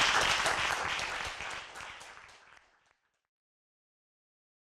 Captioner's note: applause